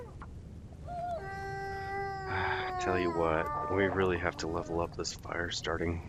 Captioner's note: wolf howls